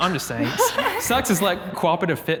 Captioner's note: group laughs